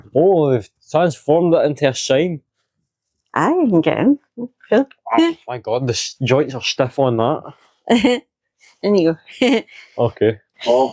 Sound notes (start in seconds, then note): 9.4 laughs